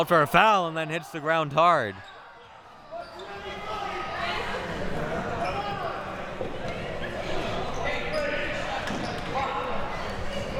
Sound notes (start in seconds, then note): 3.5 audience chattering and yelling